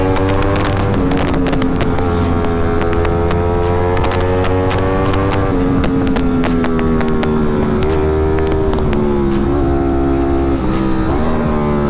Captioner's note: engine revving; laughing